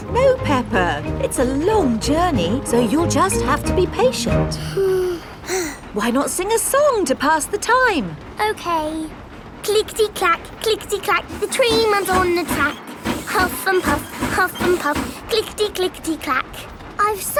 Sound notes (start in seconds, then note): 4.6 both sigh